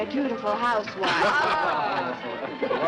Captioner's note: laughing